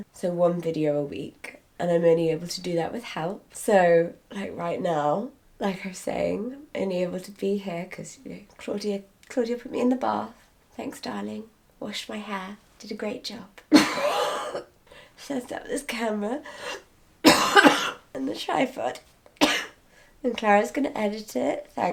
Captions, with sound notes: So one video a week and I'm only able to do that with help. So, like right now, like her saying, only able to be here 'cause, you know, Claudia put me in the bath. Thanks darling. Washed my hair, did a great job. (coughing) She set up this camera, (coughing) and the tripod, (coughing) and Clara's gonna edit it.